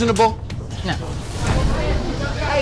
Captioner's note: chatter